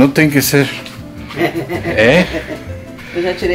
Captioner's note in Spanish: Risos